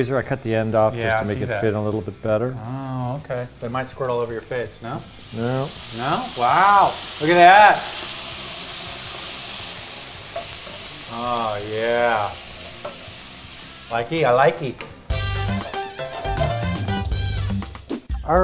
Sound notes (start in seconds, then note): 8.3 sizzling; 15.5 upbeat tropical music